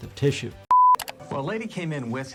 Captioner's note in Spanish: la pantalla emite un pitido